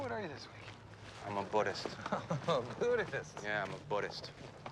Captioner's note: chuckles